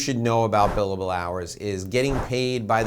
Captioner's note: air whooshing